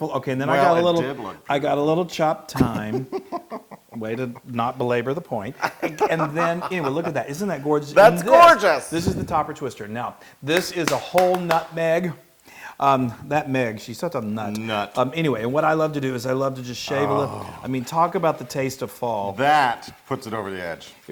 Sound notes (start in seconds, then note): 5.5 laugh; 10.6 applause